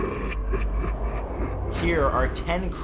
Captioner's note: evil laughter